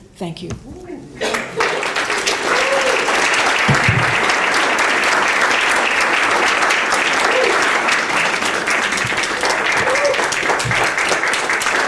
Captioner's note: applause